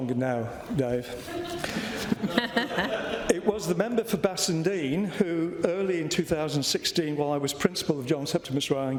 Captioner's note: laughter